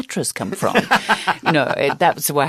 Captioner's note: laughter